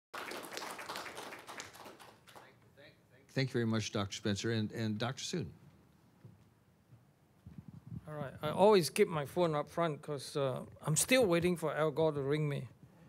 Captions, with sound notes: (audience applauds) - Thank you very much, Dr. Spencer, and Dr. Soon. - All right, I always keep my phone up front 'cause I'm still waiting for Al Gore to ring me.